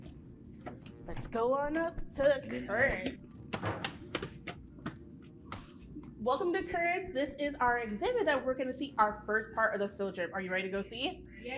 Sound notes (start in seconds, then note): 2.7 footsteps falling